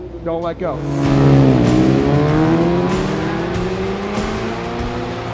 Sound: motorbike engine roaring; upbeat music

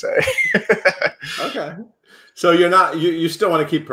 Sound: Jelani chuckling

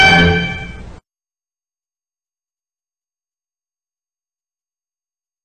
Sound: silence

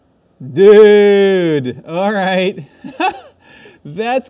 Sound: laughing

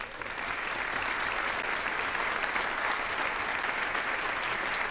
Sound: audience applauding

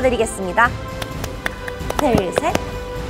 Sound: applause

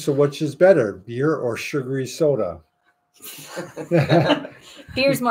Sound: everyone laughing

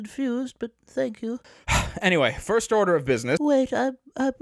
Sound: sighs out the spirit of kindness

